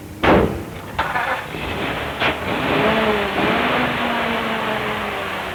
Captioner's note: car engine starts